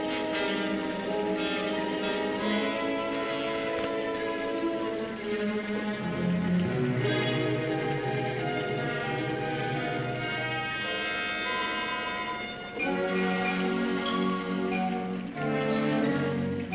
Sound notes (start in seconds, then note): 5.2 liquids bubbling; 5.2 ominous music